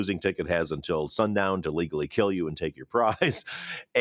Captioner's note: chuckles